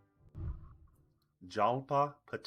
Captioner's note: whooshing